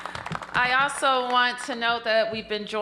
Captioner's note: applause